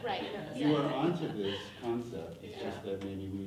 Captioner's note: people laughing